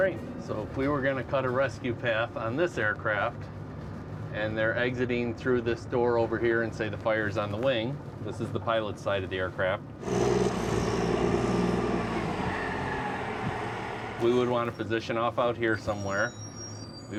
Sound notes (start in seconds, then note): 10.0 firetruck engine revving